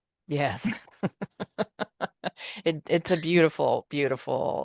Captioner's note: laughter